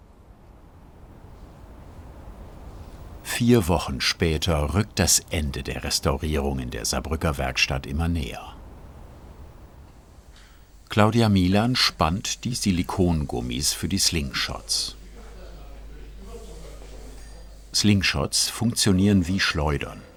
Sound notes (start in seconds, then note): 14.8 bubble of voices in the background